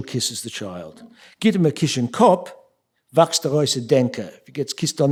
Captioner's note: speaking yiddish